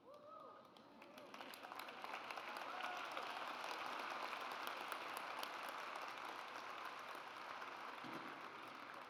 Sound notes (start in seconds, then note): 1.0 audience applauds